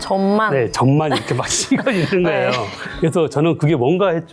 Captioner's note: both laughing